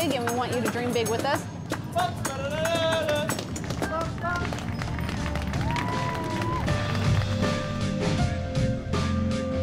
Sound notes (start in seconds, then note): 7.9 applause